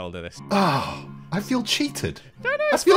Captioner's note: sighs